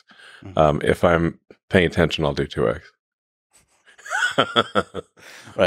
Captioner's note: laughs